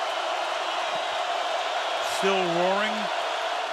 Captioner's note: crowd roaring